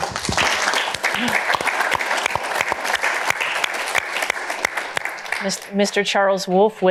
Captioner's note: applause